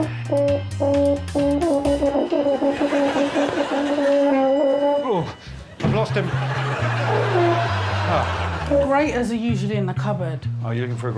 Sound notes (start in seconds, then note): 0.0 plays horn; 5.6 Alex groans; 6.2 plays horn